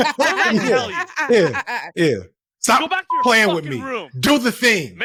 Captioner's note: laughing